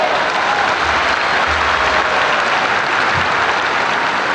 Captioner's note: audience applauds loudly